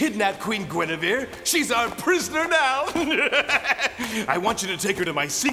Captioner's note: laughs sinisterly